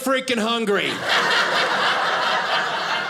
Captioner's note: audience laughing